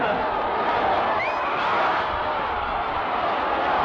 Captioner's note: audience cheering